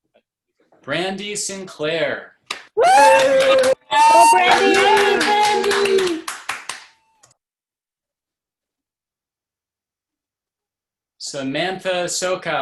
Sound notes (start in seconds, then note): 2.7 cheering